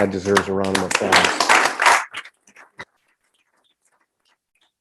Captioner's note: group applauding